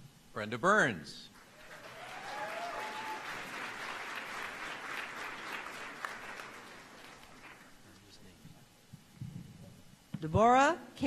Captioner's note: applause